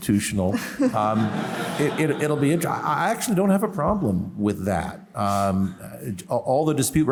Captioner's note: laughter